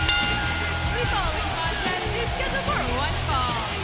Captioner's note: crowd cheering; bell ringing